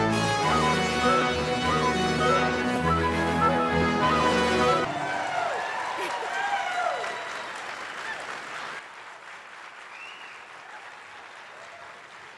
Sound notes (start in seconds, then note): 5.1 attendees applauding; 5.1 attendees cheering